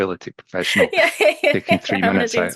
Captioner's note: laughs